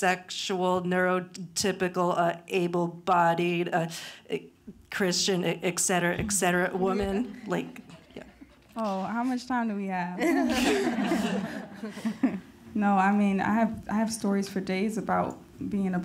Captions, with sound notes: neuro typical, able-bodied, Christian, et cetera, et cetera woman, like yeah. - Oh, how much time do we have? (group laughing) No, I mean, I have stories for days about being